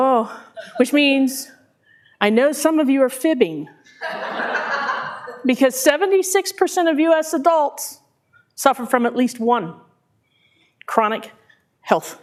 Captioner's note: laughter